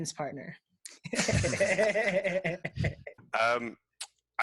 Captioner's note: laughing